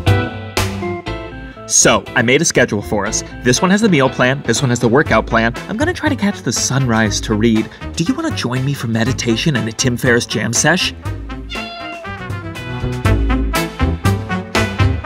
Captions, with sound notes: So, I made a schedule for us. This one has the meal plan. This one has the workout plan. I'm going to try to catch the sunrise to read. Do you want to join me for meditation and a Tim Ferriss jam sesh? (cat meows)